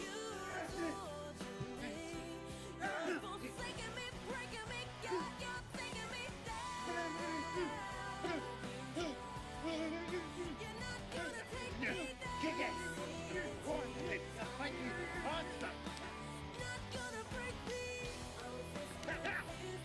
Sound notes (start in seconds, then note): 4.9 groaning